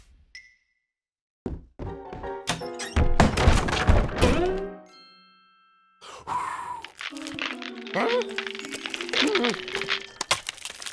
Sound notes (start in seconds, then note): 6.3 blows; 10.2 ice cracking